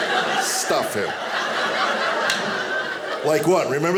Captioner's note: audience laughing